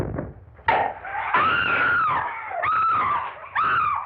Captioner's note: scream